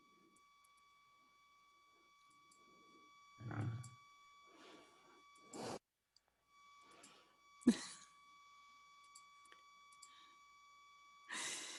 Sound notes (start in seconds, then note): 7.7 laughing